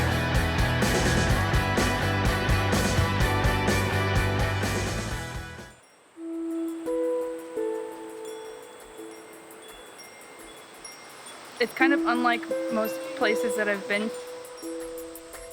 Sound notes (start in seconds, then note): 6.2 soft tranquil music; 9.1 chimes tinkling